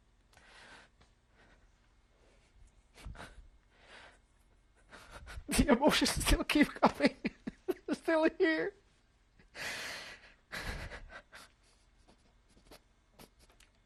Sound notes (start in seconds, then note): 0.2 sob; 4.8 sobbing; 8.7 crying